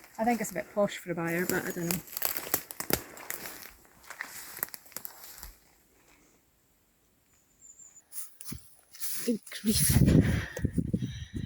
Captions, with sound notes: I think it's a bit posh for a byre, but I don't know. [Twigs cracking underfoot] Good grief!